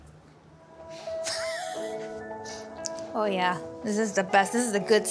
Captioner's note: laughs